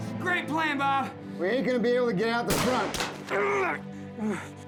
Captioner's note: panting; gunfire, groaning